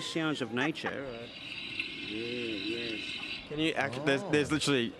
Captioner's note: jungle birds chirping; laughing